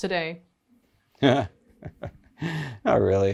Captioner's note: laughs